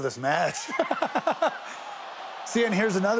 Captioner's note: Sami laughing